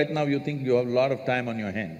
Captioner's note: none